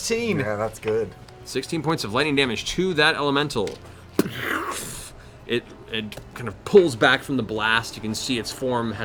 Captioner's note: impact